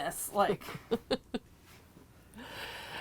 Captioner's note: chuckling